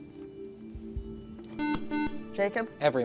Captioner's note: buzzer